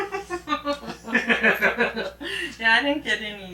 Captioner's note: both laughing